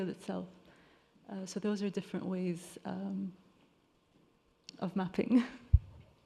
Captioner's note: chuckles